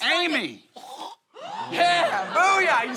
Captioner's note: grunt